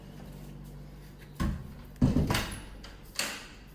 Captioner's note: door closing sounds